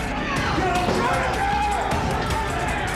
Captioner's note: shouts; fast percussive music